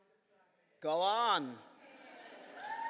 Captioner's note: cheering and applause